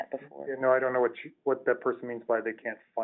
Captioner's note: voiceover